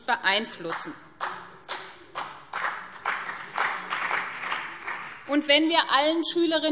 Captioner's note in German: Beifall BÜNDNIS 90/DIE GRÜNEN und CDU